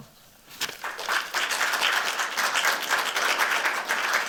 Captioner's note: applause